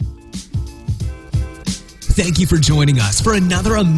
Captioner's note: voiceover